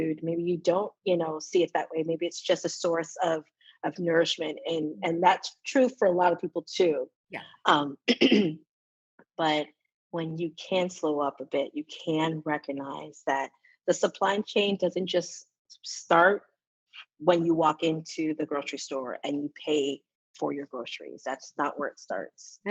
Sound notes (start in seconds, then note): 8.1 coughs